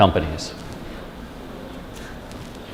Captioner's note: chuckle